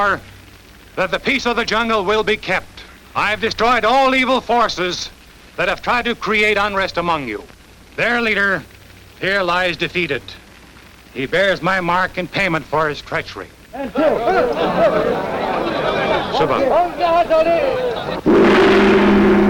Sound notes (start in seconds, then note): 13.7 crowd Noise; 18.1 drums